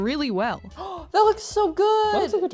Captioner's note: gasp